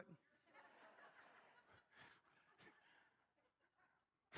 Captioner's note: crowd laughing